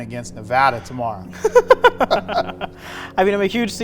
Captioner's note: laughing